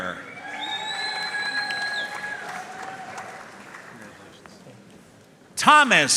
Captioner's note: audience cheering and applauding